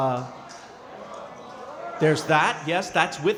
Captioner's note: crowd chattering